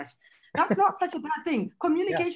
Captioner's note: laughs